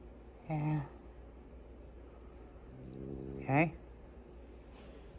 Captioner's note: growls